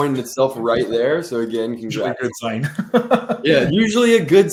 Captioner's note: laughs